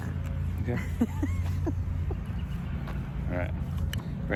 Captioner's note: laughs